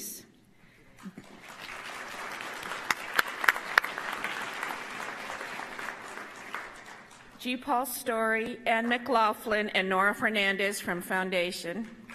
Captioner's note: applause